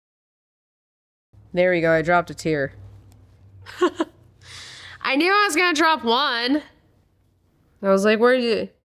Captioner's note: laughs